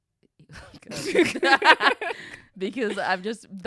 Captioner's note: laughs